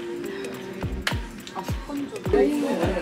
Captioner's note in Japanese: パチッ！